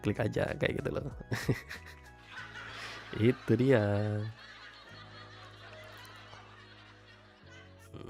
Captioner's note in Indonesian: tertawa